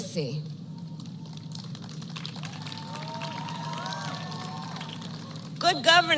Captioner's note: applause